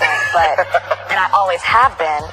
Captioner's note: laughs